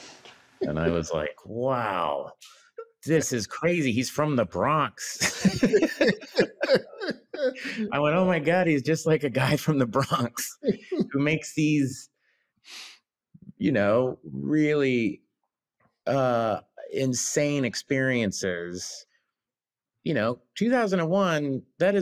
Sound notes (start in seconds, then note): 5.0 both laughing